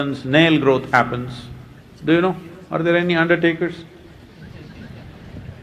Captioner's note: few laugh